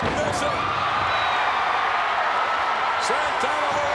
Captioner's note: crowd cheering